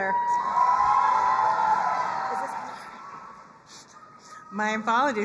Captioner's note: crowd cheering and applauding